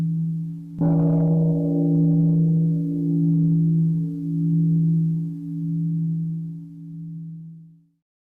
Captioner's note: the bell sounds